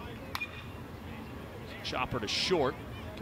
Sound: ball hitting bat

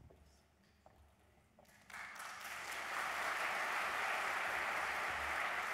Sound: applause

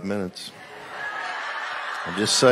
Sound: laughter

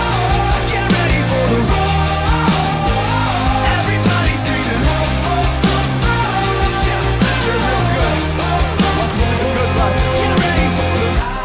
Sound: cheering

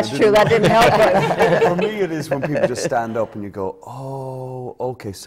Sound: laughter

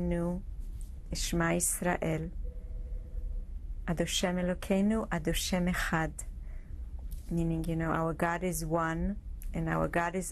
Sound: hebrew speech

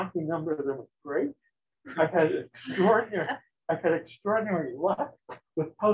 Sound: chuckles

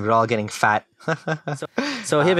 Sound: laughter

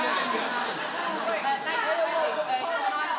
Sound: audience laughing

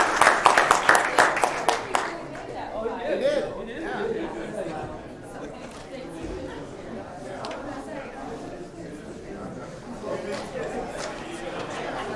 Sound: applause

